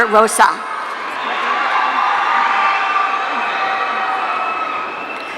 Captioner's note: audience cheering